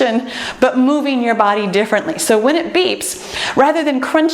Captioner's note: none